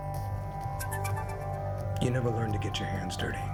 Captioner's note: incoming ringtone